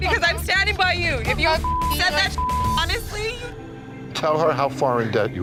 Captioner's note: beep